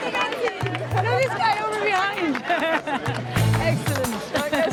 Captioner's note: chatter